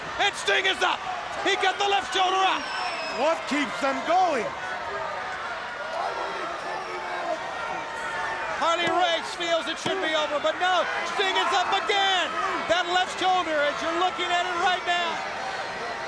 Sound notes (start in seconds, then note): 4.5 crowd chattering